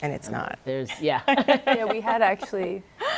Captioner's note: laughs